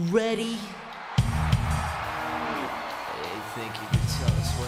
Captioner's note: audience cheering